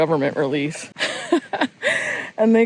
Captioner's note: laughs